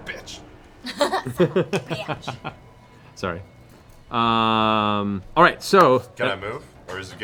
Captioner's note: laughs